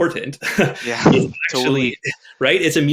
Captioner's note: chuckles